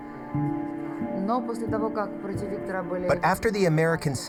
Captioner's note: speaking foreign language